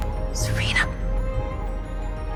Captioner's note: voiceover; whispering